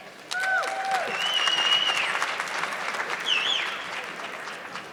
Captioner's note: audience clapping